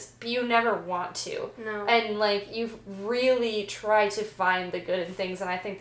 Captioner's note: none